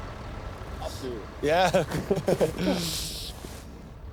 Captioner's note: laughter